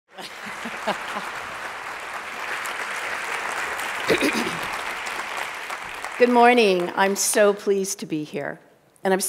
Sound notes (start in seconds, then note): 0.1 applause